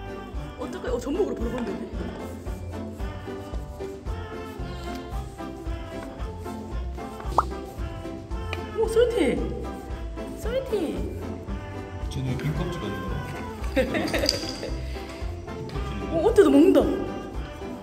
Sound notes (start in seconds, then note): 2.0 sniffing